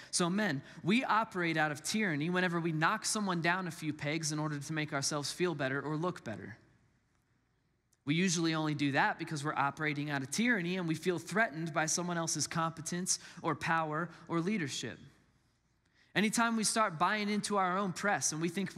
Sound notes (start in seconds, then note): none